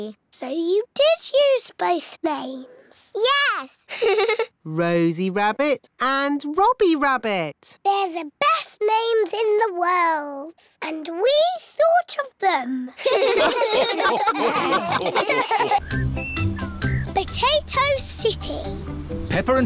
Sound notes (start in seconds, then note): 3.9 laughs; 13.0 all laugh